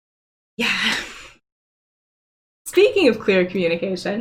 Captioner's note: sighs